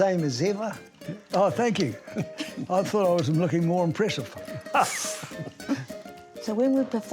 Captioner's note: laughs